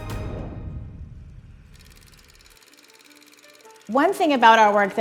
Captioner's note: film reel whirring